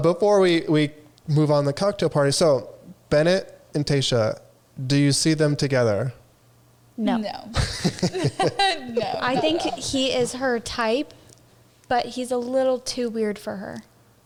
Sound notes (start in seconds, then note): 7.5 laughing